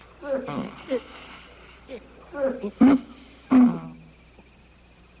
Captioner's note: groaning